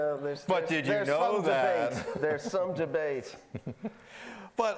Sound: laughing

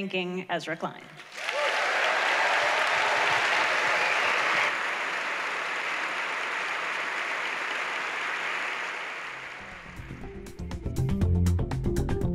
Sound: applause

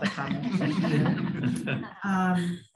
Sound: laughter

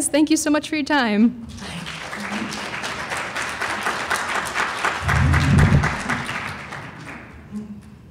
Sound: applause

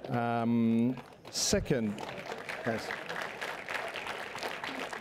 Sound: sarcastic applause

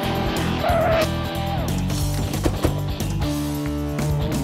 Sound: tires screeching; car doors slamming

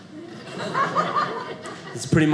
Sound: audience laughing

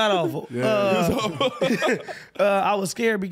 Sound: laughing

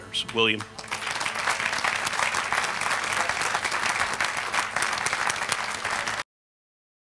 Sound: applause

